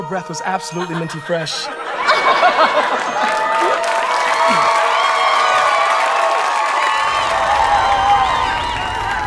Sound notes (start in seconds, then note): 2.3 laugh; 4.9 spits